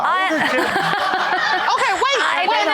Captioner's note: laughing